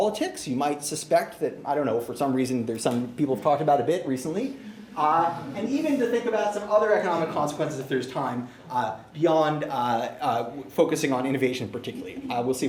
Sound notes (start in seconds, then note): 4.4 laughter